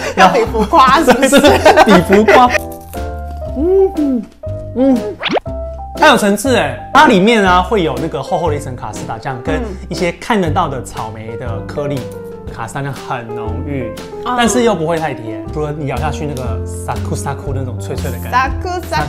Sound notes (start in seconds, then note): 2.6 crispy sound